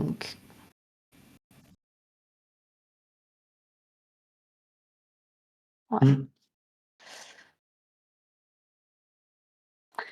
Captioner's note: silence